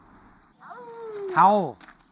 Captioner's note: Primo howling